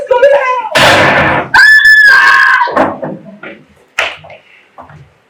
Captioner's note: Screaming. TikTok video ends